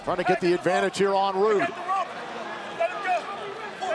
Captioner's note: crowd cheering